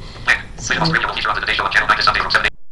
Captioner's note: JAWS reading